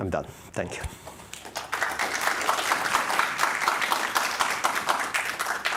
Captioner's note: applause